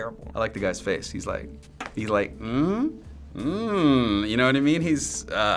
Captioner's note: making perverted noises